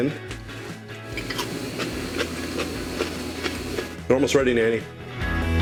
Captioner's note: crunching